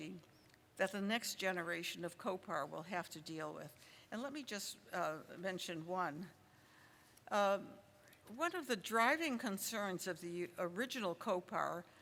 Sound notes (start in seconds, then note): none